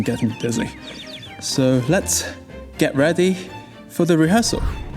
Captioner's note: pants shallowly